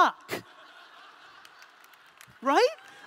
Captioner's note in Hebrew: הקהל צוחק